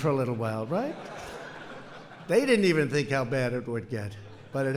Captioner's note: laughter